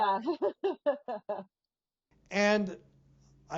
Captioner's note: women chuckling